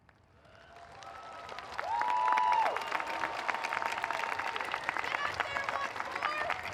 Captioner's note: audience applauding; audience cheering